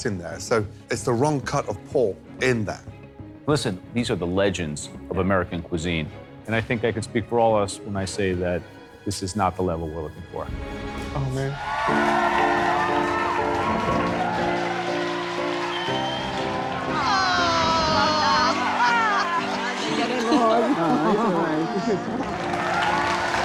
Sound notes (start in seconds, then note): 11.7 cheering; 18.5 chattering